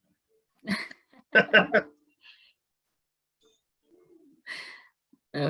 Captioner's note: laugh